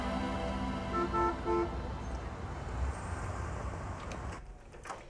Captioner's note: car horn beeps